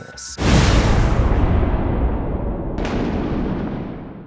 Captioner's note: cinematic impact